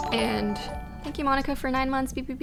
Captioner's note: notification tingling